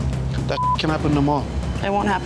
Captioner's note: beep